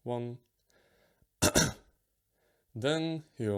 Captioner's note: clearing throat